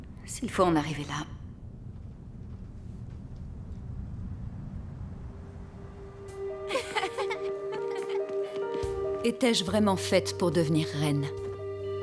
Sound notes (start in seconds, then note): 6.8 gentle music; 8.5 children laughing